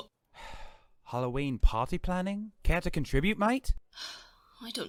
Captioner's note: Sirius huffs